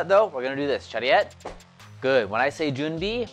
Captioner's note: foreign language